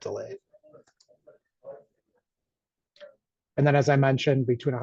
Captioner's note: mouse clicks